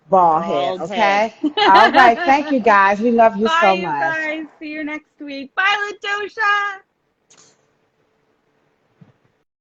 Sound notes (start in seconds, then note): 1.4 laughs